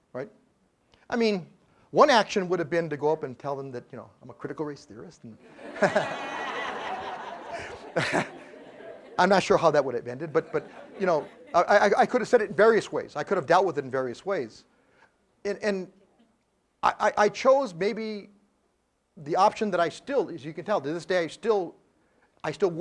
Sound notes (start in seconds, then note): 8.6 laugh